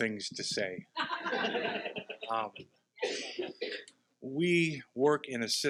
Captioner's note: participants laughing